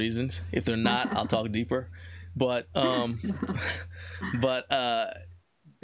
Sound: laughs softly

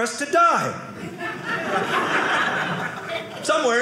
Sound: audience laughing

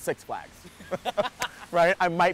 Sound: laughs

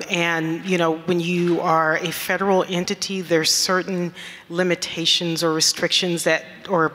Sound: none

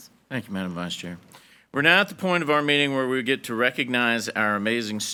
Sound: none

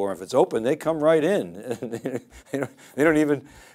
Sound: laughs

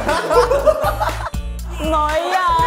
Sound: hahahahahaha

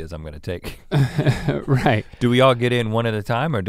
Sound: laughs

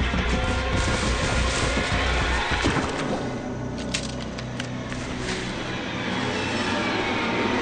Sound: music crescendos; rifles click

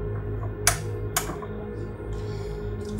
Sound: light switch

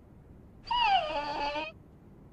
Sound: whine

